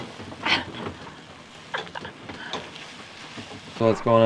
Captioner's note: laughing